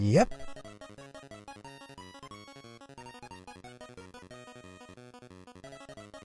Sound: Kirby game play

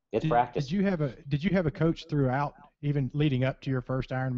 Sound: voiceover

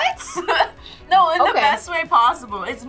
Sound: laughs

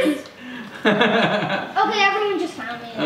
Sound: laughs

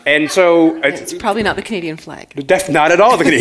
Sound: chuckle

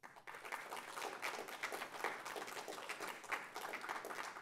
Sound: classroom applauding

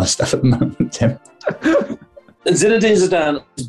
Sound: laughter

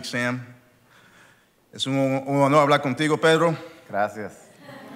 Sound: spanish

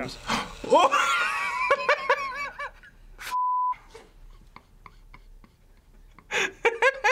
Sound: gasps; laughs; chuckles

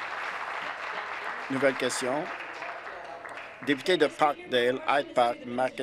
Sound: applause

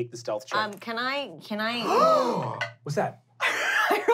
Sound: gasps

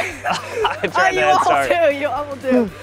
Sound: laughs

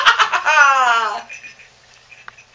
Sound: cackles loudly

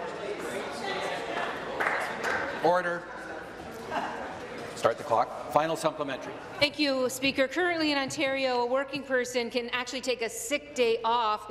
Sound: some Applause

